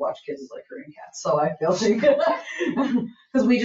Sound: laughs

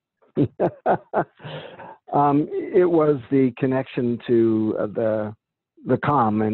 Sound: laughing

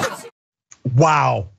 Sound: laugh

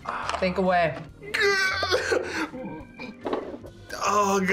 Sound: laughs

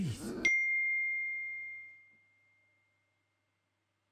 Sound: phone dings

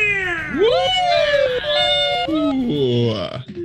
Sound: group cheers

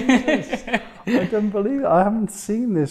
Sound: laughs

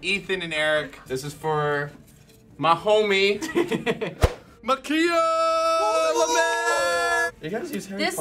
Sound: cheering

